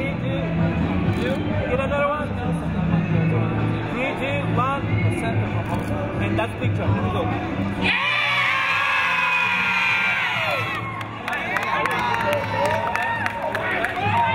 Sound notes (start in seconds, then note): 7.8 cheering; 10.6 applauding